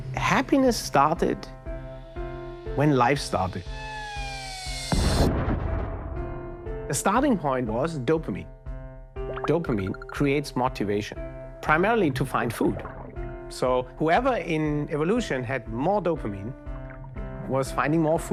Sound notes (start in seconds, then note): 3.7 fall whistling; 4.9 explosion booming